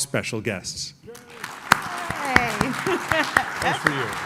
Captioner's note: applause